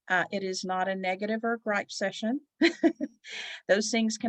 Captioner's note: giggles